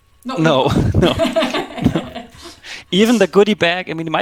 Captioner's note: laughing